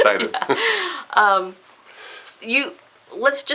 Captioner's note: laughs